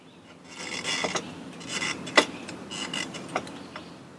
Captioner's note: ratchet clunks